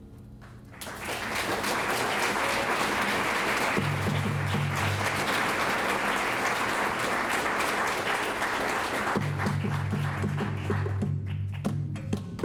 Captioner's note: clapping; rhythmic clapping with drum and bells